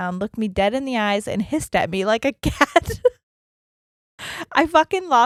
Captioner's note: giggles quickly